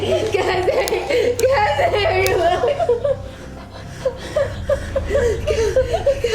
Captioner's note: sobbing; Cassandra mumbling